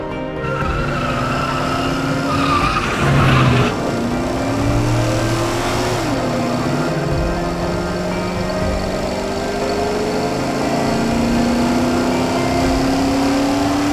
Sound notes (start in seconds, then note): 0.8 wheels screeching; 4.0 engine roaring loudly